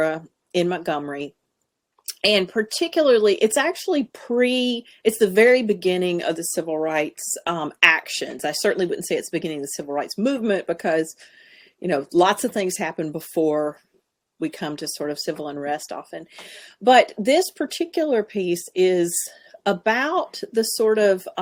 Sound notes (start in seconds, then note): none